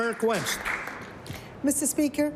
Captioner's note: applause